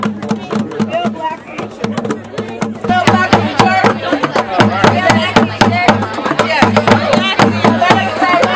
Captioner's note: crowd chanting